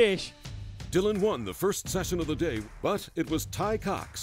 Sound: voiceover

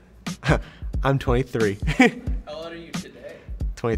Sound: laughs

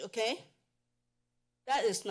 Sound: pause

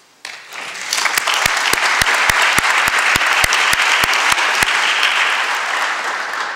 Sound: applause

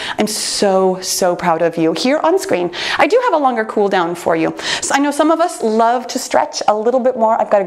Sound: none

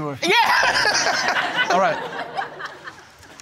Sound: laughing

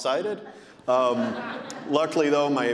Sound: audience laughing

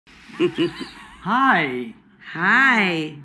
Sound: Sam chuckling

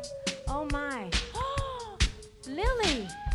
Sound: gasping

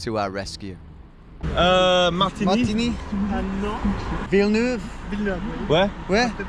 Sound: speaking in a foreign language

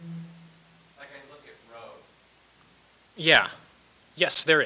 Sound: voiceover

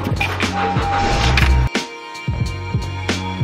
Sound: engine revs

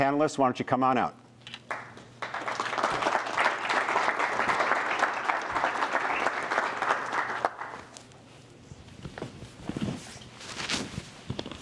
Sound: applause

